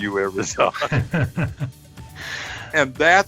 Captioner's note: both laughing